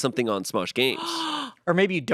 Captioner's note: gasps